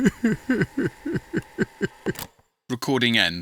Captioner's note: crying